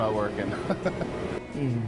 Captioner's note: laughs